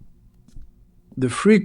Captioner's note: SFX: footsteps